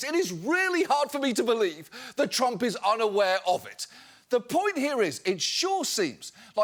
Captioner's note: none